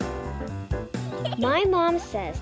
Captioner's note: children laughing